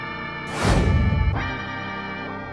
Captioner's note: swoosh Sound!